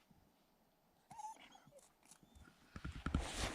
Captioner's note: Laika whining